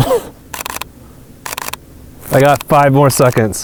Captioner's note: camera clicking